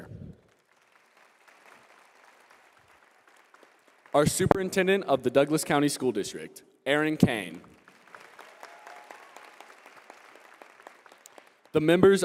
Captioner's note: applause